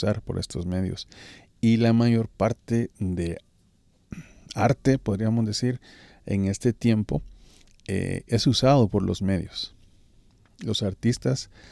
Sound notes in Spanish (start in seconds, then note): 4.1 carraspeo